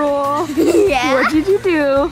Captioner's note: laughs